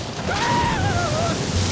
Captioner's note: screams